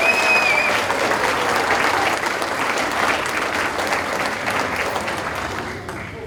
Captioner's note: audience cheering and applauding